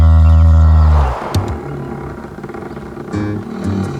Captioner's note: mooing; squeaking